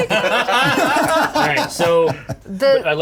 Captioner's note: everyone laughing